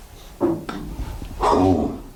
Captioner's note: knock